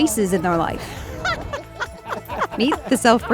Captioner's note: people laughing